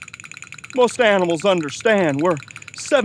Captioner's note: shivering